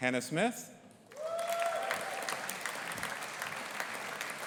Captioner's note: audience applauding